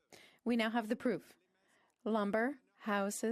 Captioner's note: speaking French